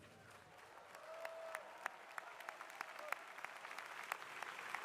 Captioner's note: crowd applauding